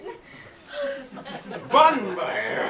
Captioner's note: audience laughs